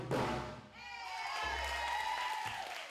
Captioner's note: all cheering